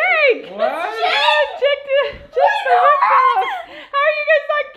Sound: shouting

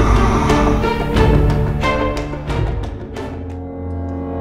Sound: Bowser Roaring

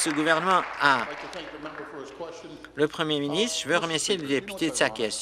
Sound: applause

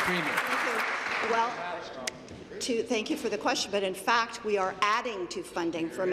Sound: applause

